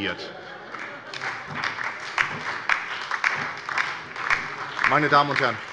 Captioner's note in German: Beifall bei der SPD und der LINKEN